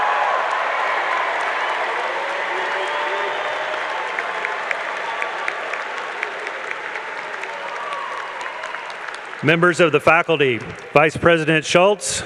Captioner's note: cheers and applause